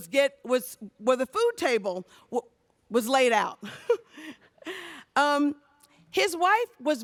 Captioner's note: laughs